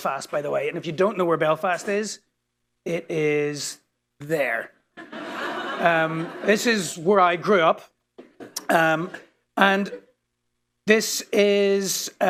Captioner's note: laughter